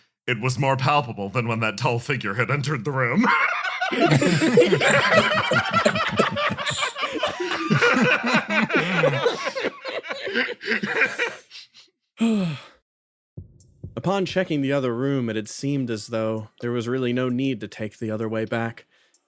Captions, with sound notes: It was more palpable than when that tall figure had entered the room. [Laughs] [Sigh] Upon checking the other room it had seemed as though there was really no need to take the other way back